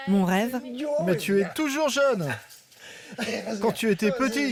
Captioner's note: chuckles